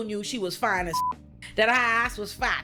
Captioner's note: beep